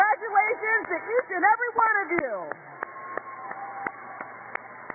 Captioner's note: cheers and applause